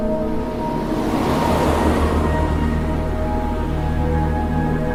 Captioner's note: cars whooshing